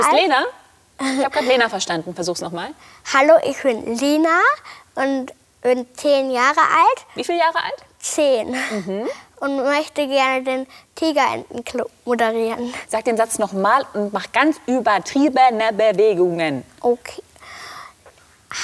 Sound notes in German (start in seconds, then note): none